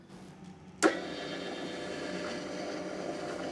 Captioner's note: mixing noises